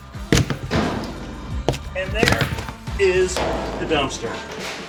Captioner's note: wood breaking